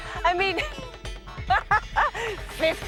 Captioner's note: laughs